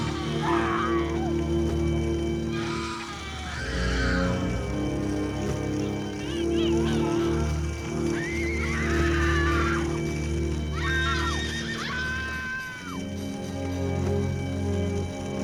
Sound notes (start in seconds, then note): 4.9 horses neighing